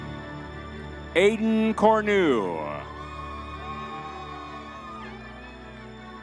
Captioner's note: crowd cheering